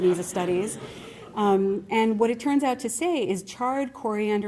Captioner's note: laughter